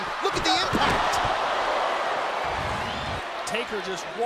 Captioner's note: crowd cheering